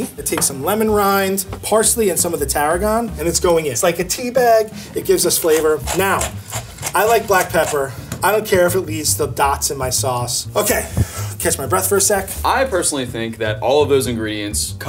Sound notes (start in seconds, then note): 5.8 grinder crunches